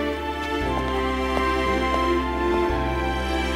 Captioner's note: Footsteps